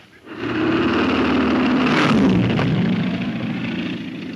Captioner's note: engine roars